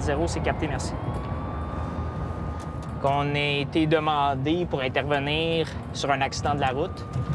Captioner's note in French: sirènes